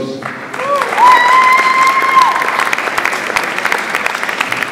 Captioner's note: audience applauds